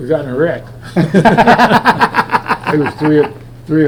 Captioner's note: both laughing